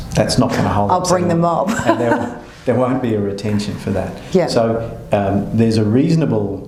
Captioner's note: laughter